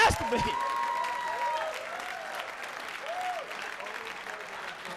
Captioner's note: audience cheering